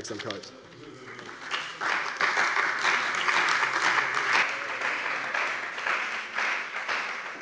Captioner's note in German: Beifall bei der CDU und dem BÜNDNIS 90/DIE GRÜNEN